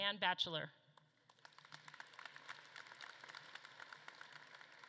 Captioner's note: audience claps